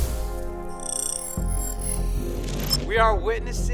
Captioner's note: digital beeping